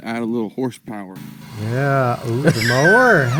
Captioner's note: motor whirring; person laughs